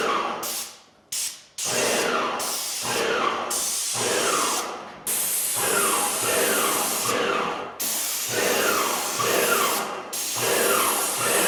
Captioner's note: spraying sounds